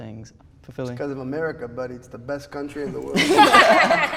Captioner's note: laughter